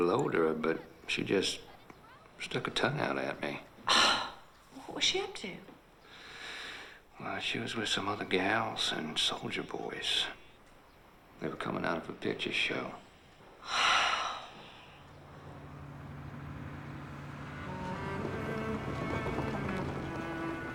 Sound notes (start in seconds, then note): 13.6 sighs